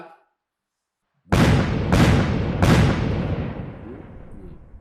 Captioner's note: big explosions